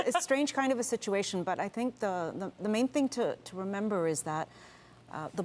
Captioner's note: speaking French